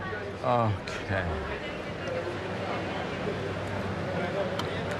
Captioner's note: people chattering